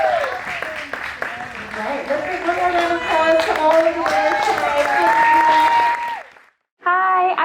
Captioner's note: cheers and applause; cheers and applause